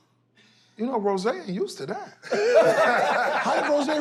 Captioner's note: laughter